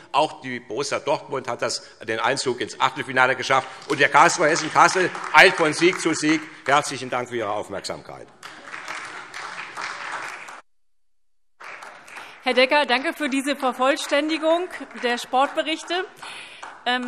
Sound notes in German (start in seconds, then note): 6.1 Vereinzelter Beifall; 8.1 Beifall SPD